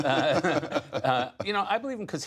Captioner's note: laughter